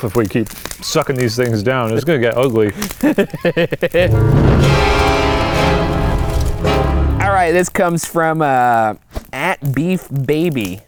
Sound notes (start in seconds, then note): 3.0 chuckles; 4.0 intense music effect